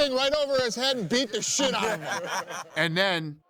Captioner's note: laughing